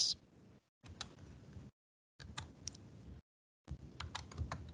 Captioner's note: keyboard clicking